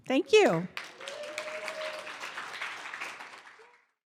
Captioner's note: audience cheers and applause